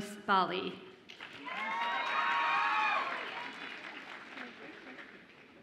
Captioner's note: audience applauds and cheers